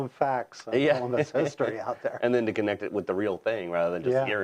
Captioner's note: laugh